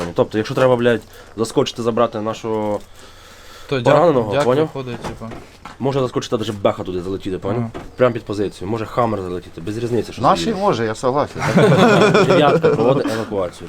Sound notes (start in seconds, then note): 11.3 laughs